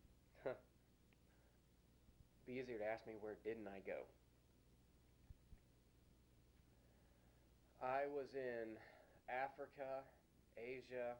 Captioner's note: chuckles